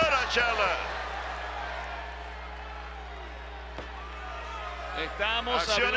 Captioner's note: applause